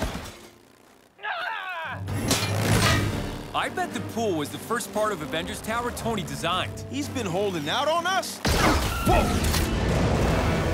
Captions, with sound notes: [EXCLAIMS] I bet the pool was the first part of Avengers Tower Tony designed. He's been holding out on us? Whoa!